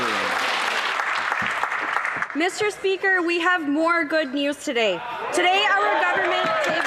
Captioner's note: some Applause